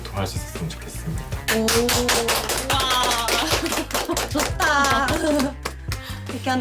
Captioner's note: clap